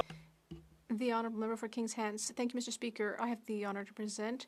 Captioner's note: speaking French